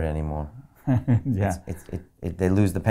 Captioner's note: laughs